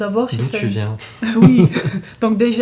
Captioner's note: laughs